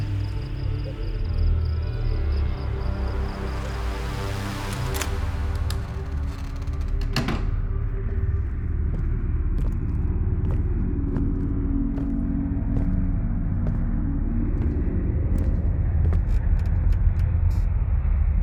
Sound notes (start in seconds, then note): 4.5 door clicks open; 6.8 door shuts closed; 8.0 footsteps thumping